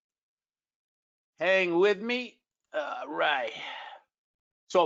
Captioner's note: grunts